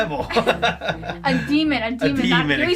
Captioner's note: both laughing